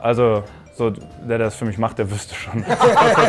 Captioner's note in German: Lachen